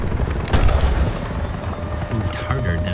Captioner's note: gunshot